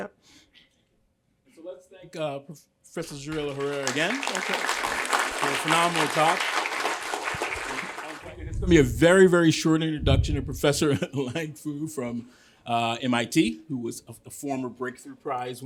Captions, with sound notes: Yeah. So let's thank Professor Jarillo-Herrero again-- OK. --for a phenomenal talk. [APPLAUSE] It's going to be a very, very short introduction for Professor Liang Fu from MIT, who was a former Breakthrough Prize